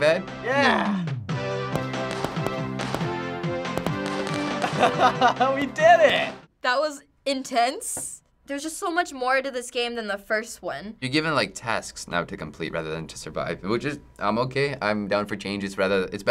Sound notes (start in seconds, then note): 1.0 cheerful '80s music; 4.5 laughing